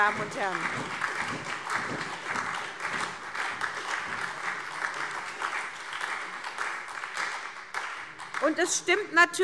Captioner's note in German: Beifall SPD, Freie Demokraten und DIE LINKE